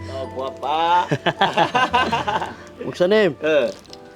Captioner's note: everyone laughing